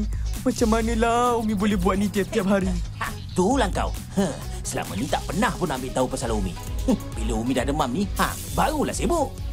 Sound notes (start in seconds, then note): 3.0 scoffs